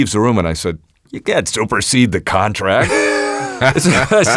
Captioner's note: laughs